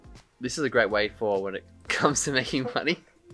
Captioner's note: laughs